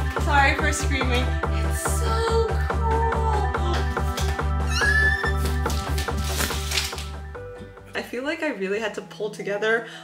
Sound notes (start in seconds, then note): 4.7 happy pitter patters